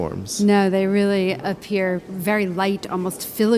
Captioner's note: voiceover